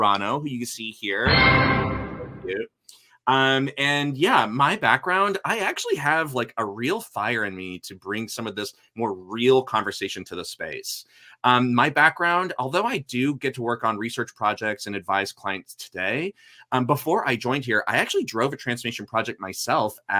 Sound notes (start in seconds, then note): 1.2 computer chimes